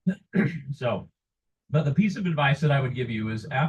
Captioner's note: coughs